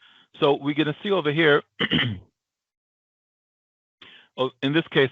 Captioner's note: clears throat